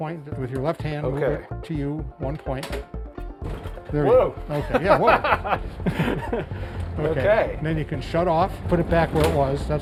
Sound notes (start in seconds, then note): 4.5 laughs